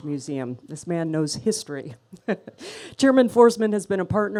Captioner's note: chuckles